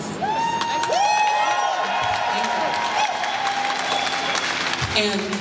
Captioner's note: cheering and applause